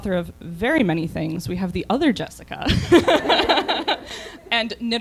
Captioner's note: laughter